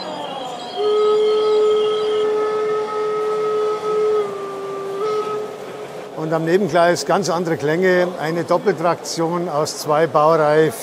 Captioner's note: steam locomotive whistle